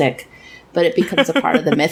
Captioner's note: laughs